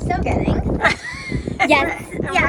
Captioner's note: chuckles